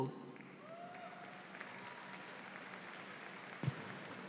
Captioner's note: audience applauds